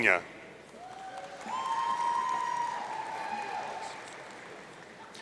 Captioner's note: audience cheering